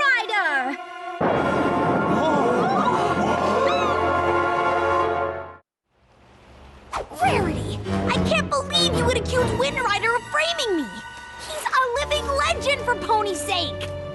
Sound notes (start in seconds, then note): 1.2 thunderclap; 2.1 gasps